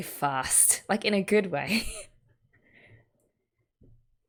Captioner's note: laughs